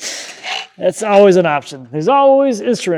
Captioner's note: laughs